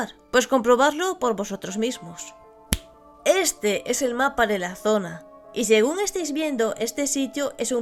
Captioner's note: snap